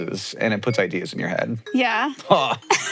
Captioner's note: Hank exclaims; Maya laughs